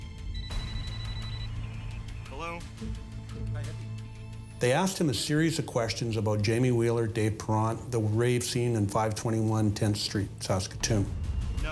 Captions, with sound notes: [phone ringing] -Hello. -Hi, Hippie. They asked him a series of questions about Jamie Wheeler, Dave Perant, the rave scene, and 521 10th Street, Saskatoon.